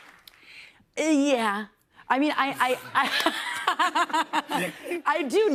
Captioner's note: laughter